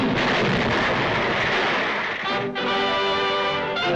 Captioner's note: explosion booms; triumphant music